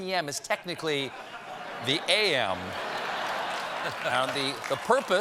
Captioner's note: laughter